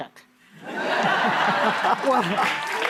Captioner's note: laughter